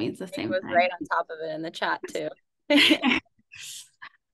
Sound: laughs

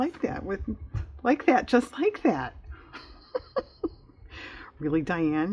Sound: laughs

